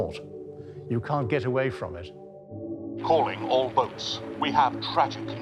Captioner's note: radio